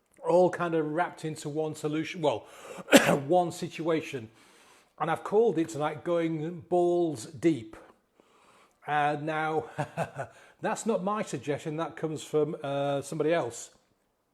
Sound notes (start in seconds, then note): 2.8 coughs; 9.6 chuckles softly